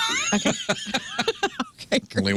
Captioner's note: laughing